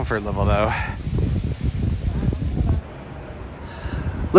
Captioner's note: wind blowing